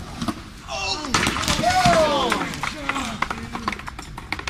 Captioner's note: crowd gasping